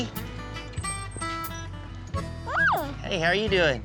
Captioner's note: door squeaks open